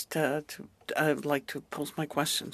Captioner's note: speaking French